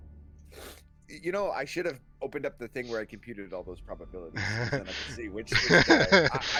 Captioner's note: sniff; laughs